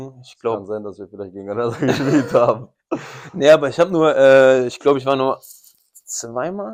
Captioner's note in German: gelächter